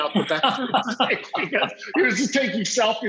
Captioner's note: laughs